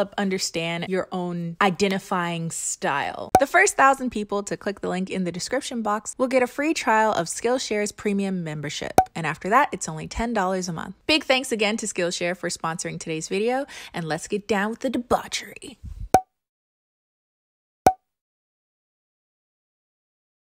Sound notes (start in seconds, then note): 16.1 pop